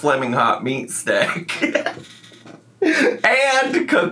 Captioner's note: laughs